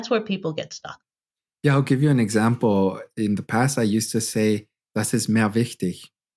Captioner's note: speaking incorrect German